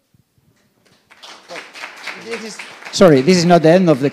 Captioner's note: applause